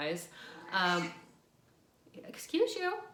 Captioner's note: cat meows